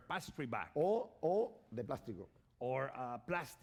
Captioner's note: speaking spanish